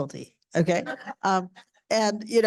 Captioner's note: audience laughing